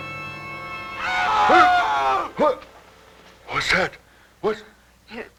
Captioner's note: yelling